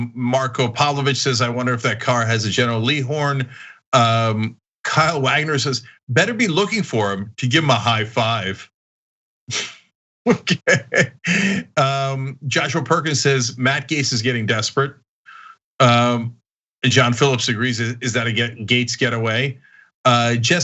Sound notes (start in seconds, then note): 10.3 laugh